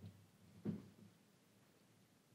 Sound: none

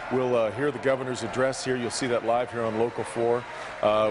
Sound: applause

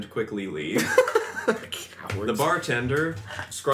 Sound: laughs

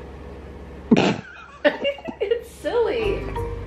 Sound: laughing

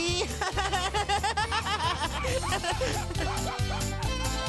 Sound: barking

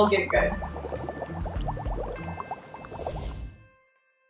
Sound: water bubbling

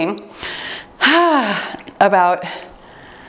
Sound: timer beeps; sighs

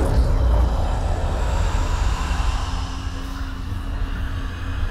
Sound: ghostly rasp

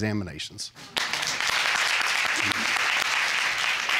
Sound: audience applauding

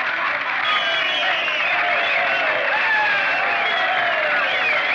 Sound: cheering Continues

